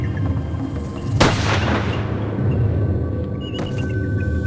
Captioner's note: gun bangs; suspenseful music continues